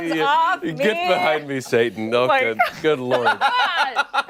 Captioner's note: laughter